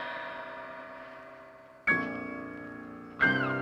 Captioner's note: none